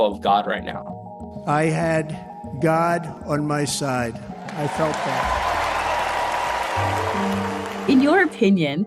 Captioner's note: cheering and applause